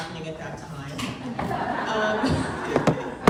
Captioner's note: laughing